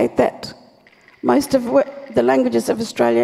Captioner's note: clap sticks rattle